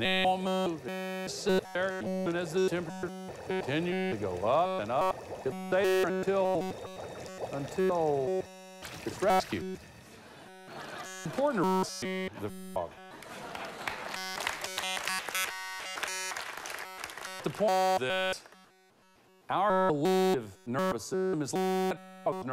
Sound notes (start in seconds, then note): 10.1 laughter